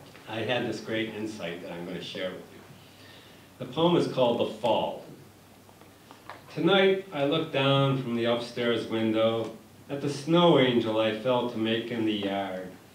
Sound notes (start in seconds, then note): none